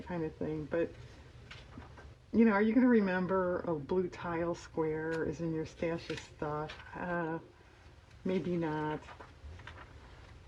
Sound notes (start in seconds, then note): none